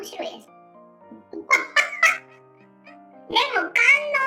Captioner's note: laughs